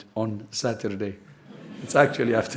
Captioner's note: laughter